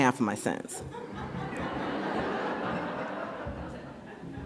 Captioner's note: audience laughs